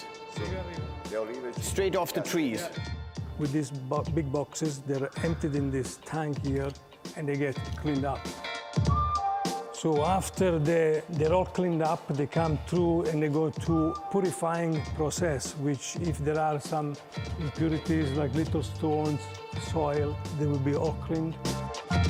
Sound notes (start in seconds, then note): 0.4 speaking Italian; 2.9 with Italian accent